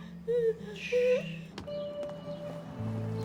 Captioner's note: Rene shushes; melancholic pensive music continues